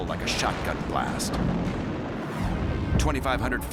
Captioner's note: explosion